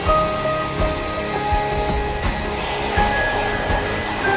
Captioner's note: fan motor whirring